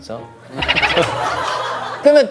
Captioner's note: chuckles at his brother's joke